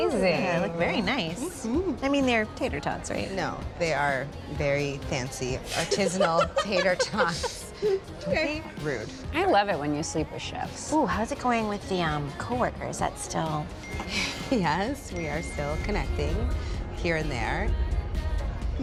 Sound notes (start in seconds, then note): 13.8 cellphone chimes